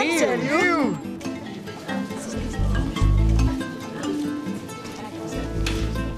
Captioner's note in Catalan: enrenou de converses